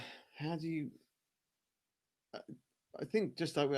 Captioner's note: coughing